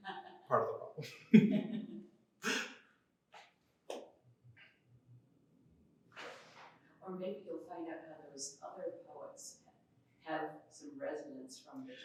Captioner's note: laughter